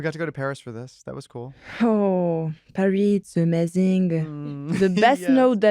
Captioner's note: in french accent